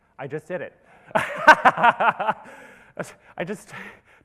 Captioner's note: laughs